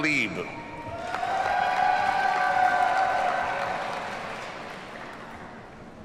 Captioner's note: audience cheers and applauds